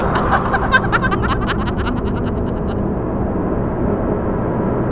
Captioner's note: dramatic, tense music; disembodied laughing; dramatic, tense music